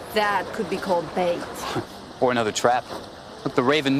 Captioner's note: chuckles